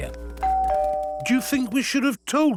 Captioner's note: doorbell rings